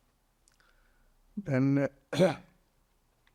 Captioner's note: coughing